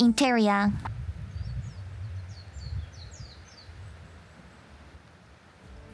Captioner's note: bird chirping